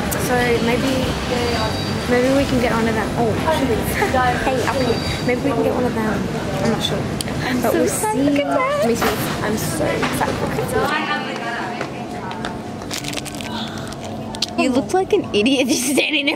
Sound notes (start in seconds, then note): 12.8 plastic scrunching